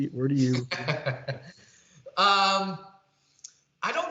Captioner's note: chuckles